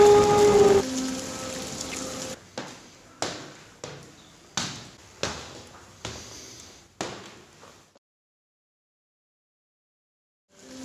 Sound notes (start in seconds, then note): 0.0 brass instrument playing; 2.7 footsteps